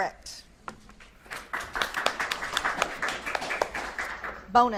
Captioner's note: audience claps